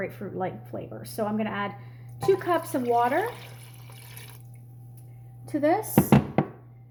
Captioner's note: water splashing